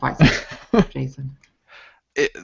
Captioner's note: laughter